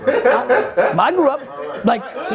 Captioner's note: laughs